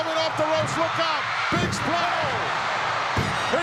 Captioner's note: audience cheering